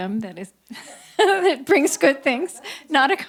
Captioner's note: laughs